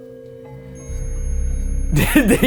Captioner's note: device beeping